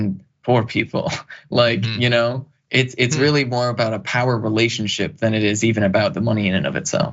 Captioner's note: laugh